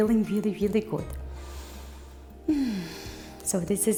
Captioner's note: breathing